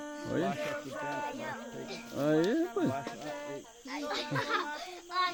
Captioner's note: speaking Yanomami; child speaking Yanomami